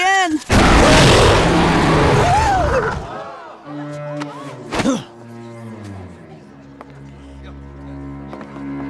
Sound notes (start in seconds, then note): 0.5 roaring; 0.7 screaming; 4.7 grunting